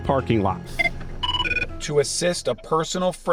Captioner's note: phone ringing